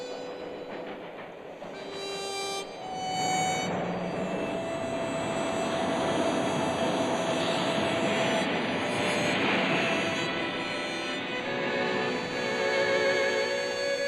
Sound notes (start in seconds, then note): 1.5 sad harmonica music; 2.2 train rumbling; 10.6 melancholy music